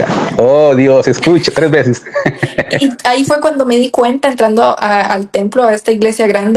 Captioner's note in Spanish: risas